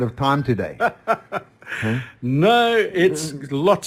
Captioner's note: laughing